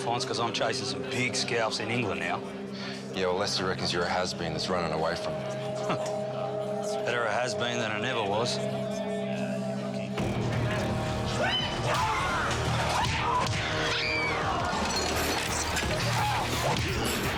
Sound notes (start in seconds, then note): 8.8 ominous droning music; 11.8 punches land; 12.2 thud; 12.8 woman screams; 14.4 glass shatters; 15.7 high intensity music